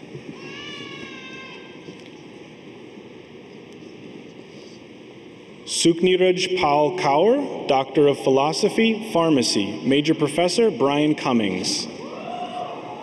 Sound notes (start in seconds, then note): none